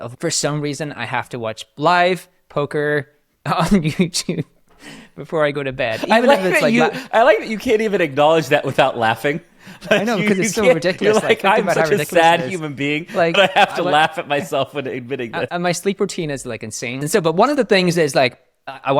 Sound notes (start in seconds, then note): 5.9 laughs